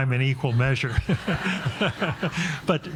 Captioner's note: all laughing